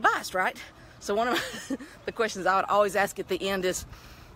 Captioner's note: giggles